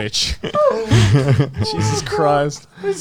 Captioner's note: all laughing